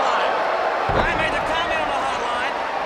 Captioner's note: crowd cheering